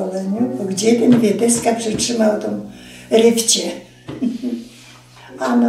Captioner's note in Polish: śmiech